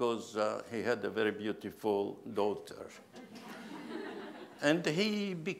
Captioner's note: laughs